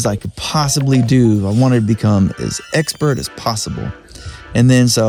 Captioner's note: computer game sounds